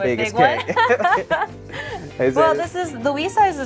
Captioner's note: both laughing